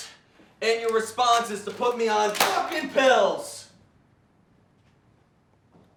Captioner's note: papers slamming on counter